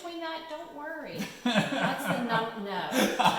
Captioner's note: laughing